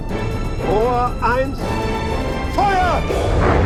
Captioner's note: speaking foreign language